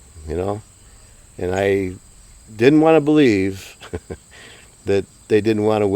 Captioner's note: chuckles